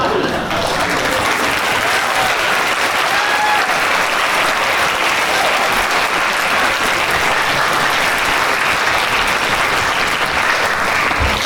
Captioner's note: clapping